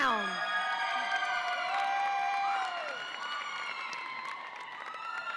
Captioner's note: audience applauds and cheers